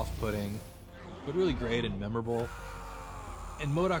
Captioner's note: screaming